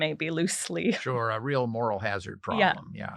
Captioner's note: laugh